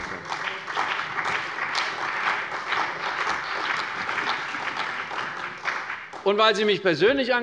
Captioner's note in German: Beifall bei der CDU und dem BÜNDNIS 90/DIE GRÜNEN